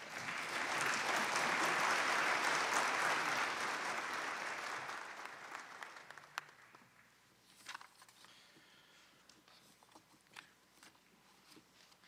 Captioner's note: applause